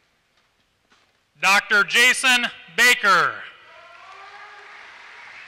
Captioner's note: applause